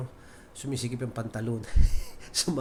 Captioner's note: chuckles